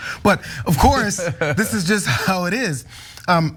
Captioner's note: laugh